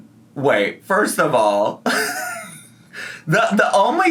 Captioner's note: laughs